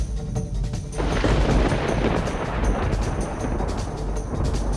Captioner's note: thunder crashing